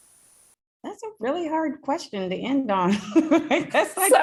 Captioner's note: laughs